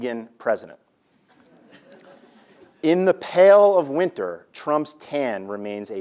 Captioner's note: laugh